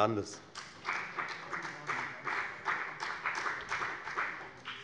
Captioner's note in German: Beifall bei der FDP